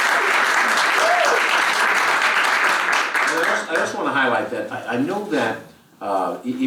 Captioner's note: applause